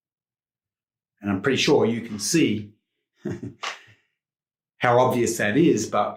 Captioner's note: chuckles